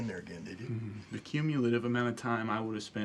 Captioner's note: chuckles